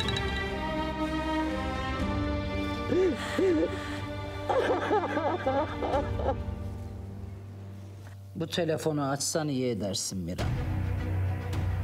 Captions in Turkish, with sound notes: (Ağlıyor) Bu telefonu açsan iyi edersin Miran.